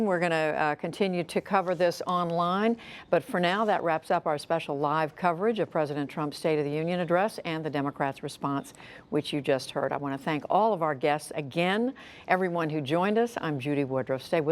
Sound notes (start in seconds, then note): none